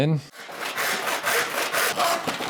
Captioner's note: sawing sounds